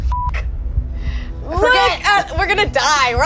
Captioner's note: beep